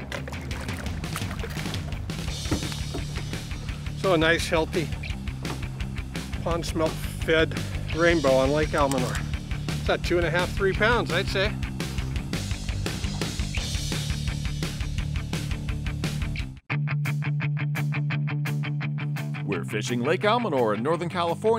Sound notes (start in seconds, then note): 1.9 fish splashing